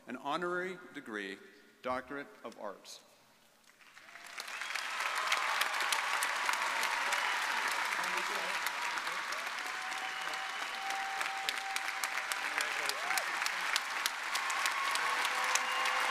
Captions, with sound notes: an honorary degree, doctorate of arts. (audience applauding)